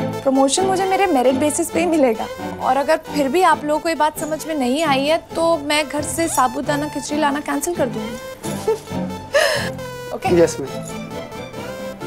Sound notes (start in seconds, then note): 8.4 Gauravi giggling